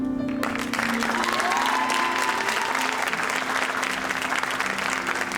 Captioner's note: audience applauding and cheering